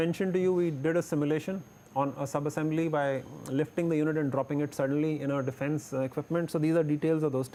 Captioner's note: repeated shocks